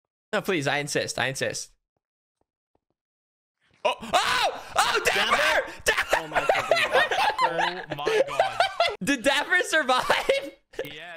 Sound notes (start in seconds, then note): 3.8 screaming; 3.8 laughing